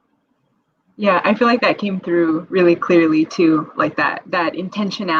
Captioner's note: audio glitch